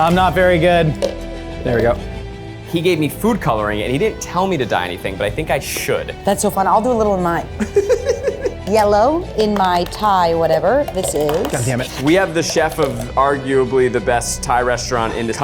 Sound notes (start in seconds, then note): 7.6 laughs